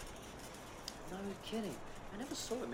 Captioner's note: clothing trolley rattling